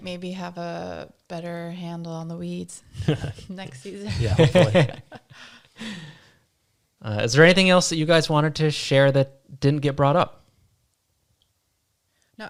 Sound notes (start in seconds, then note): 4.6 all laughing